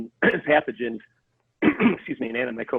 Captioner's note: coughs